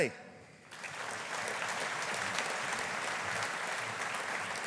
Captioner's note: audience applauding